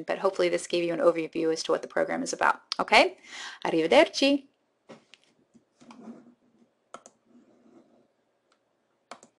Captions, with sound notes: but hopefully this gave you an overview as to what the program is about, okay? Arrivederci! (mouse clicking)